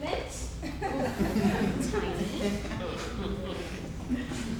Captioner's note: audience laughs